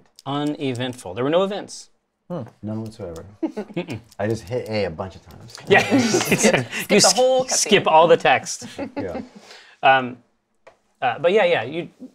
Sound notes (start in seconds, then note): 5.6 laughs